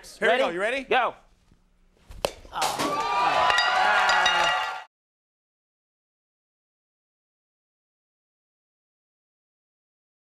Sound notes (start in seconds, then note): 2.6 audience cheering